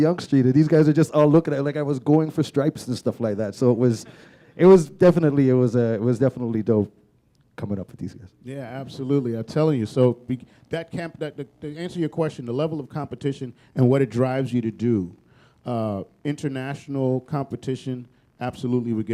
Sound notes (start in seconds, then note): none